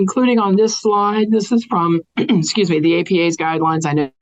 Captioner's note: clears throat